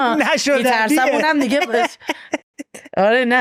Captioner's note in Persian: خنده